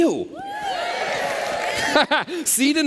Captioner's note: cheers